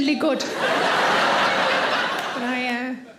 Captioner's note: audience laughing